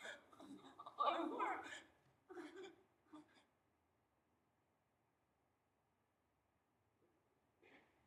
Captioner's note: crying